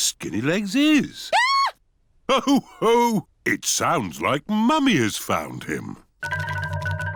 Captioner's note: mummy pig screams